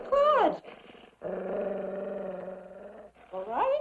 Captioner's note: dog growling